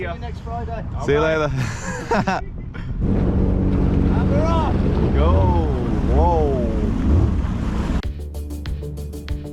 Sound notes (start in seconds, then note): 1.6 laughs